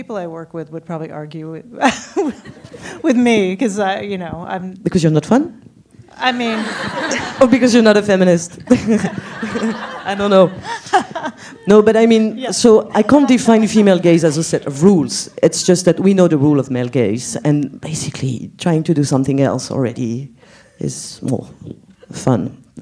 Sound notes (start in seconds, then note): 8.7 laughs